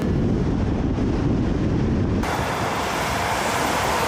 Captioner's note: wind blowing